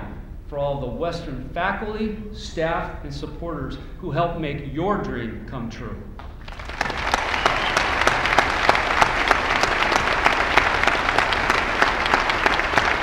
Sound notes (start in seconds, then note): 6.4 applause